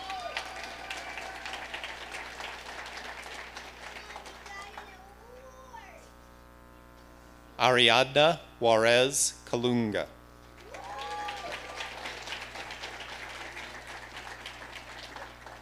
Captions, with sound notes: (audience applauding) Ariadna Juarez Kalonga. (audience applauding)